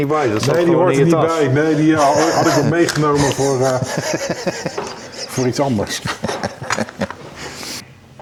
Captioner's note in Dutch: gelach